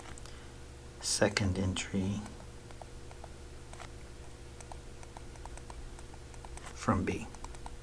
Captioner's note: writing Sounds